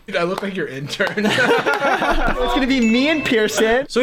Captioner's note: laughter